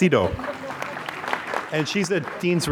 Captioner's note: applause